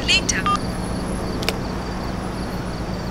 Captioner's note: Disconnects